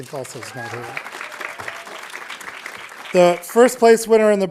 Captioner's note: audience applauding